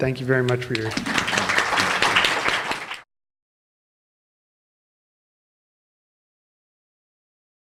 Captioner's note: applause